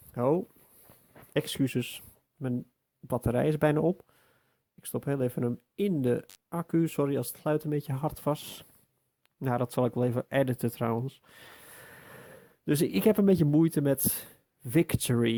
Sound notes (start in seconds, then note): 11.3 deep inhale